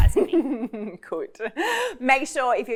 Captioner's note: laughing